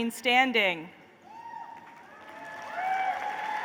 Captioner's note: applause